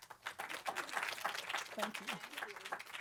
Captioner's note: applause